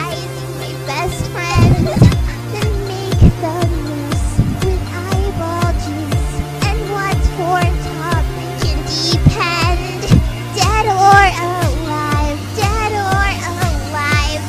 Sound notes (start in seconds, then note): 9.0 teehee!